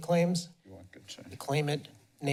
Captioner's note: background chatter